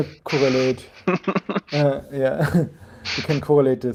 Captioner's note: chuckling